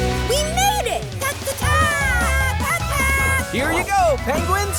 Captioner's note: squeaking